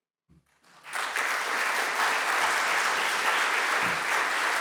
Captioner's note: audience applauding